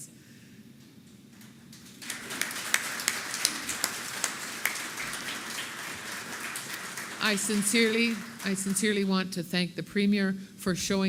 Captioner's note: applause